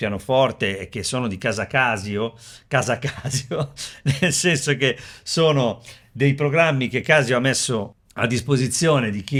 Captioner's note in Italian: risate